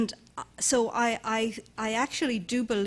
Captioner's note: none